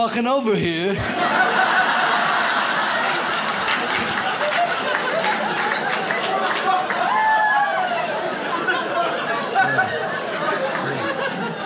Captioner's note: audience laughs